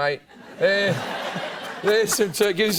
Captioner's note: laughter